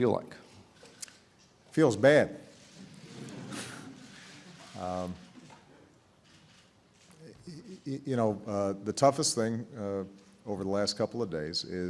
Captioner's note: laughter